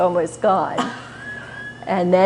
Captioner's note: laughter